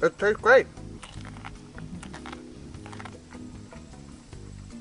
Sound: crunching

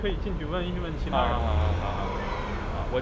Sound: mandarin

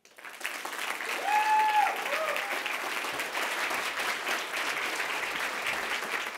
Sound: audience applauding; audience cheering

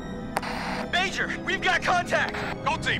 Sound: over radio

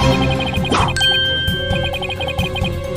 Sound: hears alarm

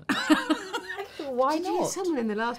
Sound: laughing

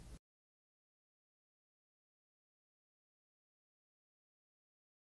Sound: silence

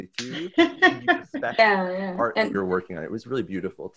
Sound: laughing

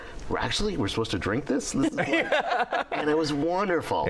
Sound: laughter

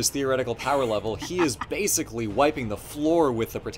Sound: laughs

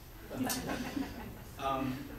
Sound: audience laughs

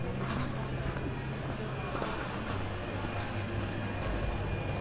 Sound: people chattering

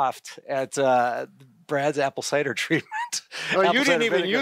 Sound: laughs

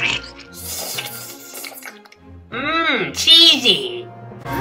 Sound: slurps

